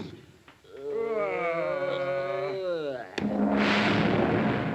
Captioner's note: creature groans; gong reverberates